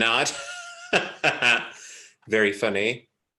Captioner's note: laughs